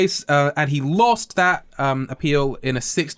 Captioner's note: royal voice